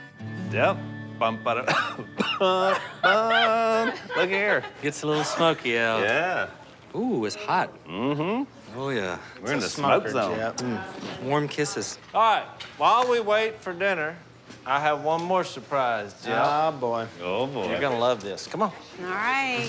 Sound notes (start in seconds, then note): 1.6 coughing